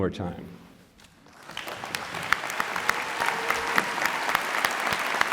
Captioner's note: applause, cheering